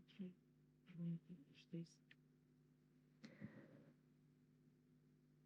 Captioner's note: inhale